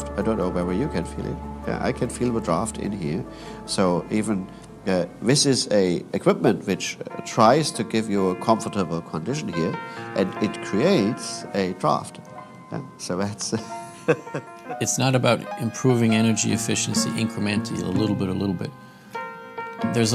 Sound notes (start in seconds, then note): 13.5 chuckles